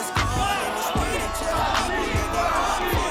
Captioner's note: chanting